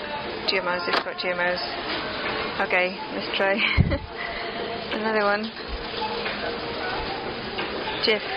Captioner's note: gasp